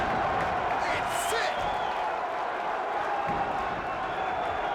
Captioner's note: crowd cheers